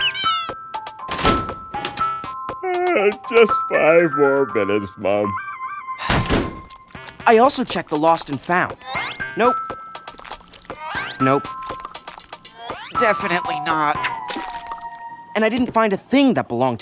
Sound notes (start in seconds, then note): 2.6 yawns; 4.9 sighs